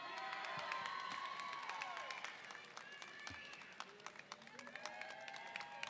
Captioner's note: audience applauding and cheering